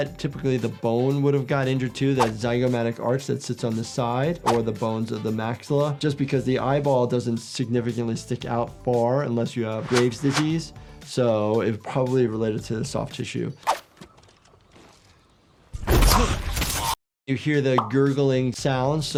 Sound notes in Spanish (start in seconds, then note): 15.8 personaje gruñendo